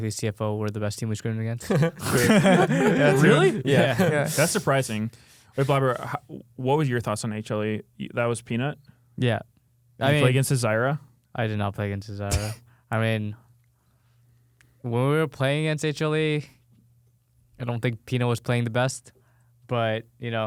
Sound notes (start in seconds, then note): 1.6 laughing; 1.6 laughs; 12.3 coughs